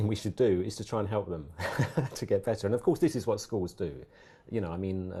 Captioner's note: laugh